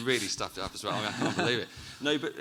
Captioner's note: chuckles